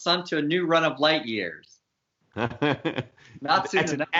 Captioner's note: laughs